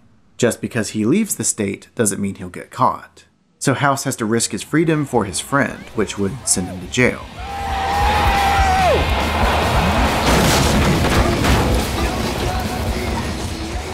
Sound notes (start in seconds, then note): 7.3 yelling; 8.1 revving; 8.9 crash